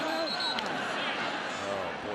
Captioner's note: whistling